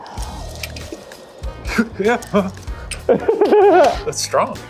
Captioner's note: cough